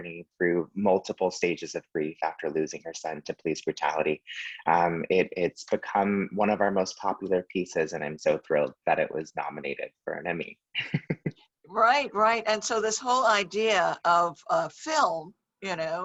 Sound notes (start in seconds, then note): 10.7 laughs